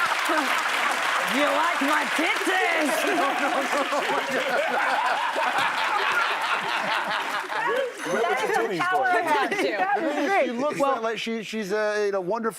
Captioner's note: laughter